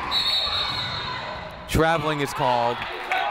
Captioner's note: whistle